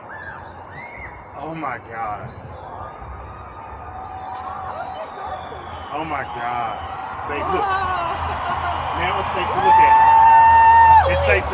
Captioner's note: crowd cheering